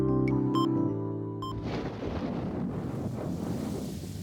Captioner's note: thunder